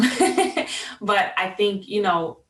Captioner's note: laughing